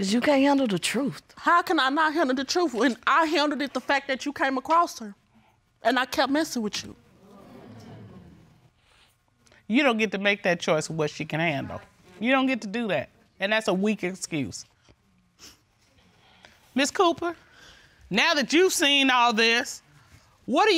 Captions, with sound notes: 'Cause you can't handle the truth. How can I not handle the truth when I handled it, the fact that you came across her and I kept messing with you. [audience awes] You don't get to make that choice of what she can handle. You don't get to do that, and that's a weak excuse. Ms. Cooper, now that you've seen all this,